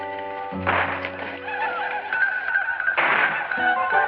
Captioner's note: gunfire and war cries